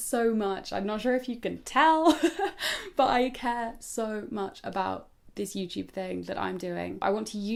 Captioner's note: giggles